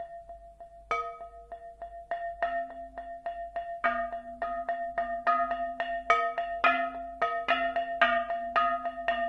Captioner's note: hollow sounds of different pitches